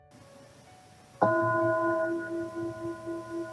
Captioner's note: bell tone